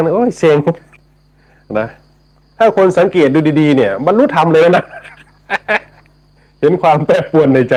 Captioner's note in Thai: เสียงหัวเราะ